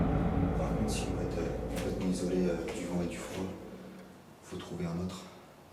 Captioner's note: speaks French